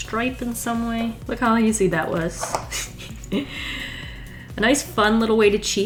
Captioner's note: laughs